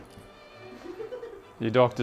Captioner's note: laughing